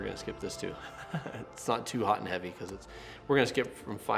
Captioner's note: giggles